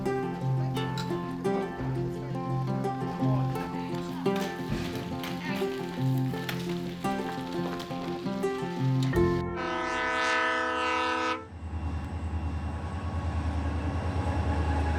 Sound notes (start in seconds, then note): 9.5 train horn blasts